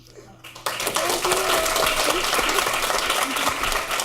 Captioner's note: clapping